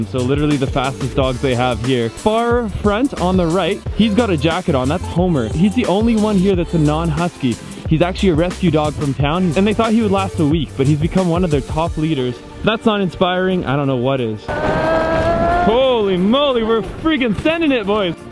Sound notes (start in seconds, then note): 14.6 moaning